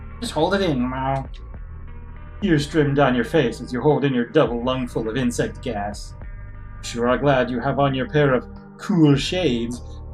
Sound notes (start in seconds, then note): none